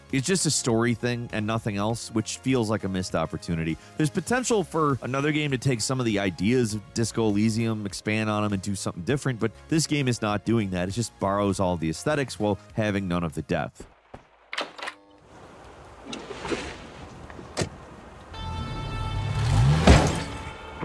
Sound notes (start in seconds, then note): 14.5 door clacking; 17.7 car engine roaring